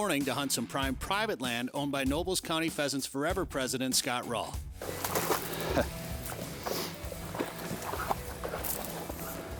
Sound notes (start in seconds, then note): 4.8 dog splashing; 5.5 chuckling